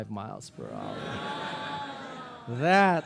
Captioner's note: audience laughing